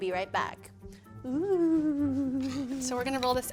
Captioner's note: ghostly moan